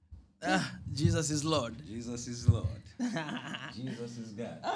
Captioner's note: laughter